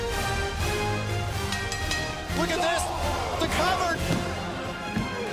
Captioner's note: bell ringing